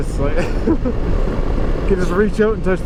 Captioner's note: laughs